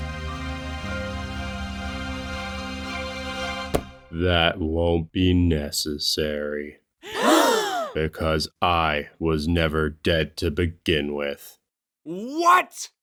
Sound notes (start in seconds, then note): 7.0 everyone gasps